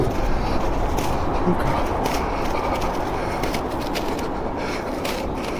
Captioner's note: whispers